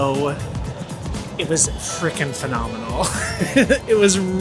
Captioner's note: laughs